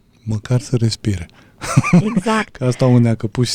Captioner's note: laughter